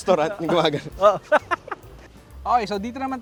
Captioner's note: continues laughing